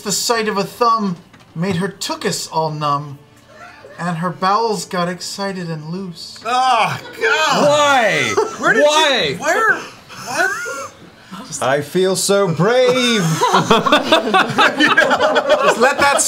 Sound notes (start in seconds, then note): 7.4 groans in disgust; 12.8 laughter